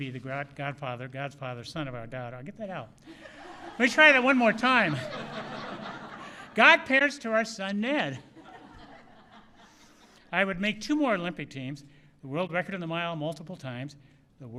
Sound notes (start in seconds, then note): 3.0 laughter; 8.1 laughter